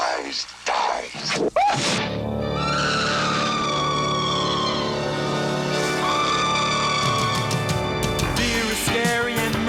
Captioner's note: bell Ringing